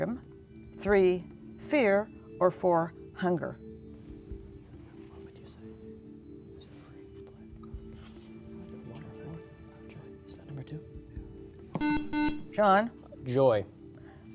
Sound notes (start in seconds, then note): 4.1 whispering; 11.7 beeping